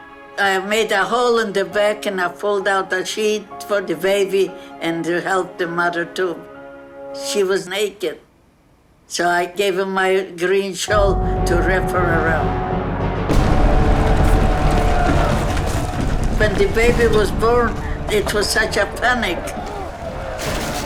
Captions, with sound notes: I made a hole in the bag and I pulled out a sheet for the baby and helped the mother too. She was naked so I gave her my green shawl to wrap her around. (people shouting distantly) When the baby was born, it was such a panic.